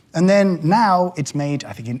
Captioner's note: none